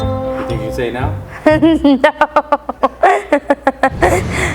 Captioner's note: laughing